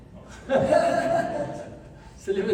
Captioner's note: laughs